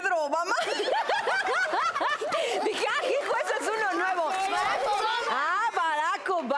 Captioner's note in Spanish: Risas